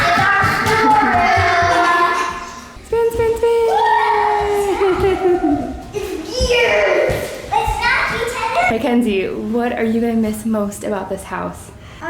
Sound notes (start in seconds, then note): 6.6 kids yelling